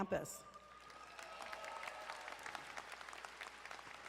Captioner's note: crowd applauding